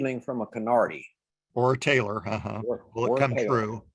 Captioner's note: chuckles